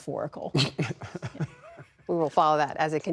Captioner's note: laughter